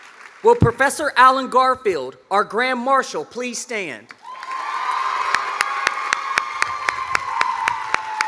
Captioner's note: cheers and applause